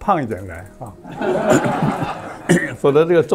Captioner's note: laughs